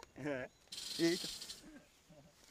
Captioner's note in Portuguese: susto